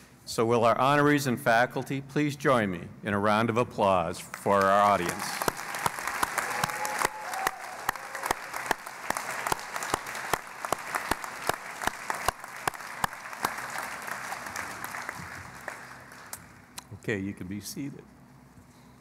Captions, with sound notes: So will our honorees and faculty, please join me in a round of applause for our audience. [ Applause ] OK. You can be seated.